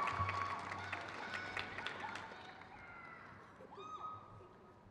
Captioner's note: crowd claps